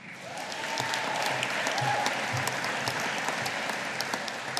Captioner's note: audience applauding